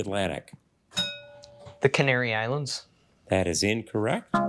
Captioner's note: bell dings